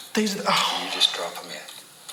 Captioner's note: sighs